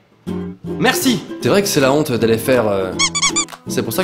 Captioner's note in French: pouet pouet